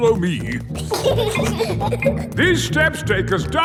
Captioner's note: giggling